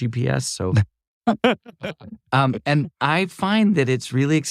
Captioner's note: laugh